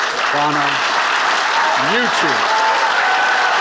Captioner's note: audience applauding and cheering